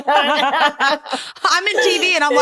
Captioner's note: laughter